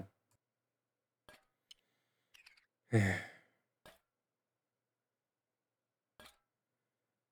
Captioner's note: sigh